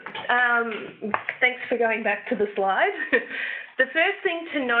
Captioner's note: chuckles